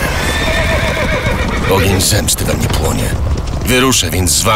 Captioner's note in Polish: koń rży